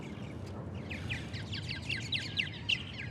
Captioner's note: birds chirping